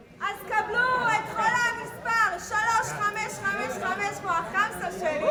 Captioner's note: speaking in foreign language